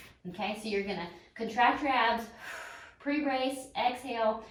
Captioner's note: exhales